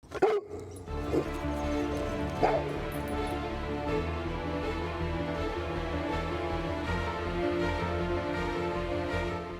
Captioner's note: Casper Barking and Growling; dramatic Music